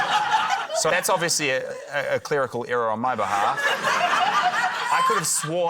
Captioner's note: laughter